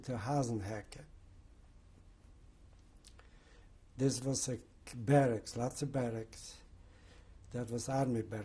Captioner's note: pauses for 3 seconds